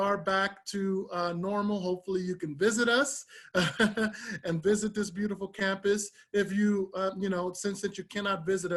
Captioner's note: laughter